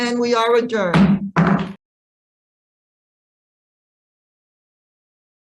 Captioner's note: gavel striking